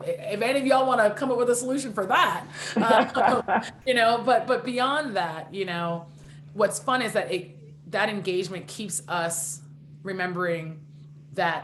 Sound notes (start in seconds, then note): 2.5 laughing